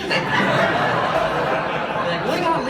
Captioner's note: audience laughs